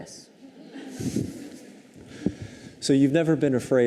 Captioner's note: audience chuckles